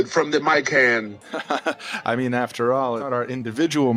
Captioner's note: evil laughter